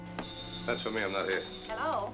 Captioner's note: phone ringing